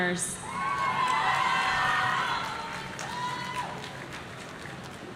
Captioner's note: audience cheering